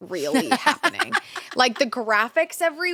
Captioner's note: laughs